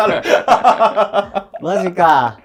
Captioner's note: laughing